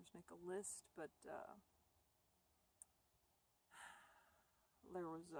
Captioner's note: sigh